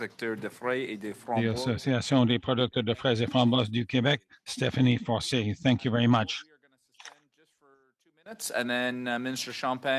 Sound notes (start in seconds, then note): 4.7 speaking French